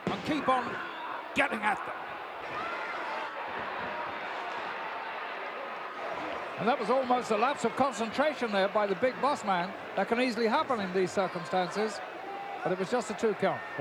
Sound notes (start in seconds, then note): 2.4 audience cheering